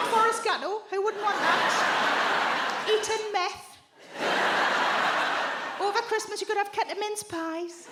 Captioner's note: audience laughs